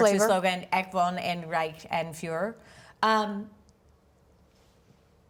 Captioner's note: speaking German